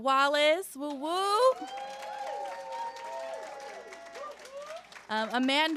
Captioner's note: cheering